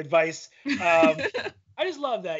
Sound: laughing

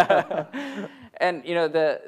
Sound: laughter

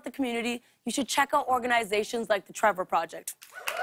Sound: cheers and applause

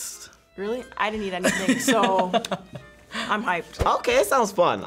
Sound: laughs

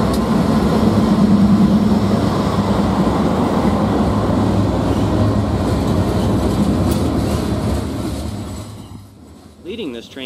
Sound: train

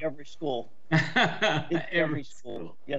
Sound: laughs

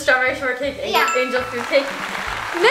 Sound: correct bell rings

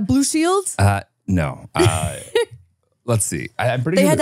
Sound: laughs

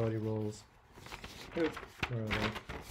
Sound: paper rustling

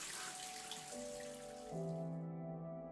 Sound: water running

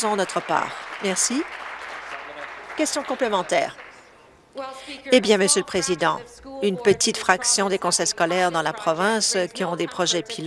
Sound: applause

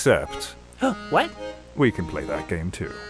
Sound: gasps

